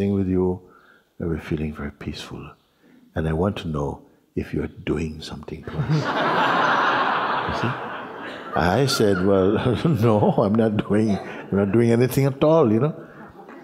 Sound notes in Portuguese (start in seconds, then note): 5.6 risos